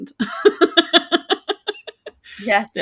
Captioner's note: laughing